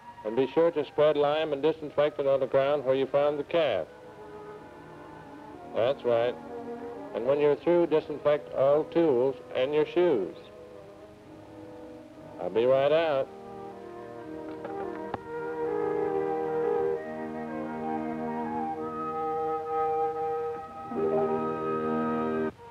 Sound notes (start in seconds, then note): 14.4 phone clicks; 17.2 music fades out